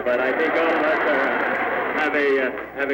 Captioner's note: laughter